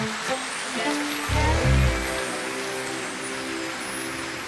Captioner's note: audience applauding